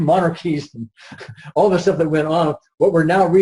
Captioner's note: laughs